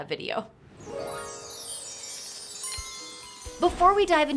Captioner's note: magical chimes